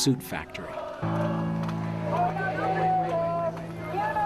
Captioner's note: chanting in Spanish